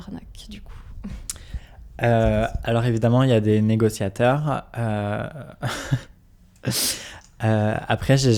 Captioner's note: laughs